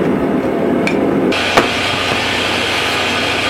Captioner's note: clank